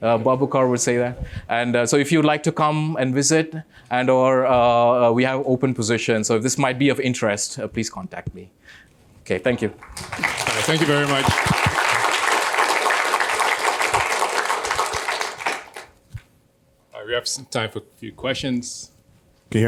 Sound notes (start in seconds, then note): 11.6 applause